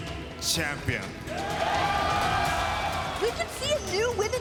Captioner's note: cheers & applause